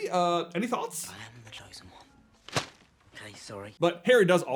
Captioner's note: thwap